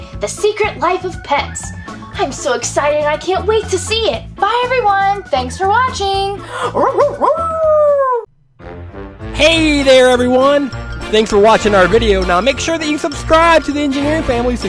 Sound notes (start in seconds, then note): 6.6 barking and howling; 9.6 voiceover